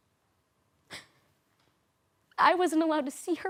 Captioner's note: silent; sharp inhale